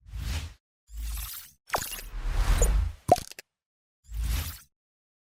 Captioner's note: electronic clicks & beeps